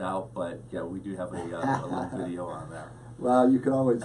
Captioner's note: laughs